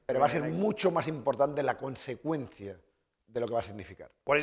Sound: speaking spanish

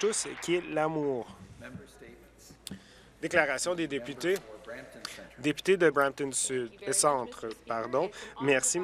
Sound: applause

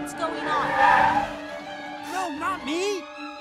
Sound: brakes squeal

